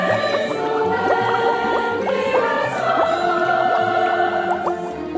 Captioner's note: bubble-science noises!